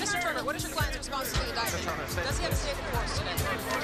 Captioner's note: reporters clamoring